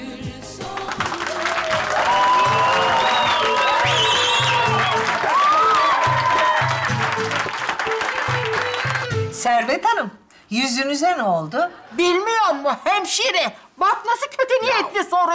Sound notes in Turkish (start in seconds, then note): 0.7 Tezahürat ve alkış sesleri